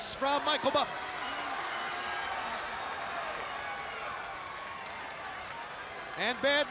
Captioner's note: crowd cheering